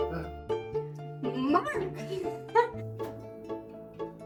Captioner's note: laugh